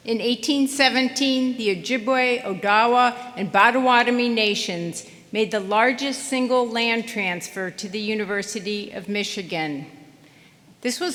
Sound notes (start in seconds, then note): none